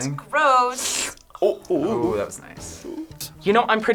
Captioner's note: slurping noise